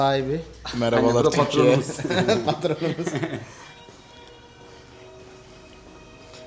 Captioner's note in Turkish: kahkaha